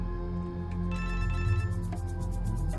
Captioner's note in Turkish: telefon çaliyor